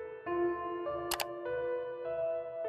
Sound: click sound

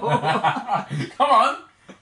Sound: laughing

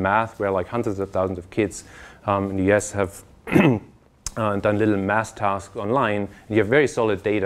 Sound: cough

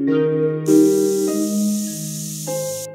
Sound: spray Paint Sounds

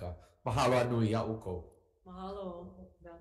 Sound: speaking Hawaiian

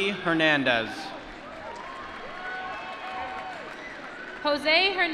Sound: applause

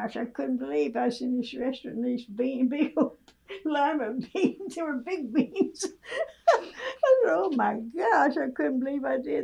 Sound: laughs

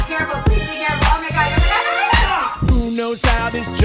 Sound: exclaims

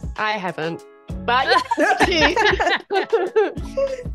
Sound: laugh

